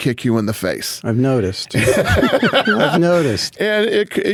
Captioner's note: Dana laughing